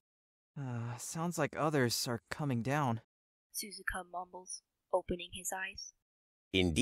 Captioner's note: softly sighs